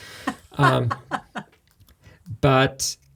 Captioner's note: laughing